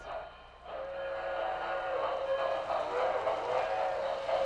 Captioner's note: horn blowing